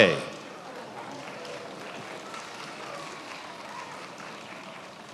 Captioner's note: attendees applauding